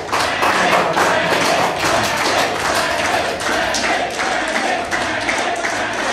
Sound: crowd

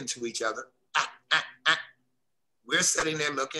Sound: imitates a Harris's hawk

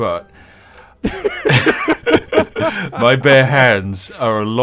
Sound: laughing

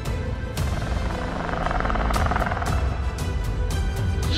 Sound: velociraptor growls

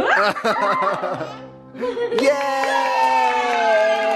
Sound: laughter; clapping and cheering

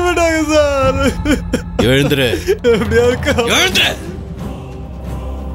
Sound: crying

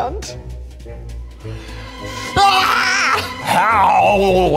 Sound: gasps; screams

